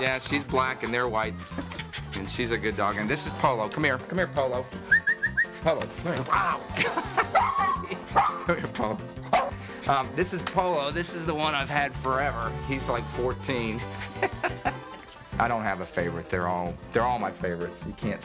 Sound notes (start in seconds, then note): 4.8 whistles; 6.2 laughs; 13.8 laughs